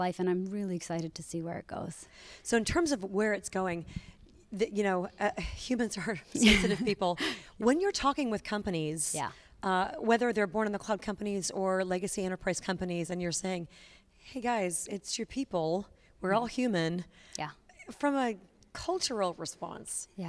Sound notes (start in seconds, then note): 6.4 chuckles